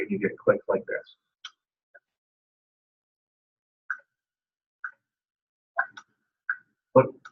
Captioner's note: clicks sound as he swipes